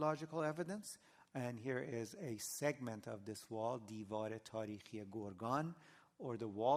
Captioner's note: non-english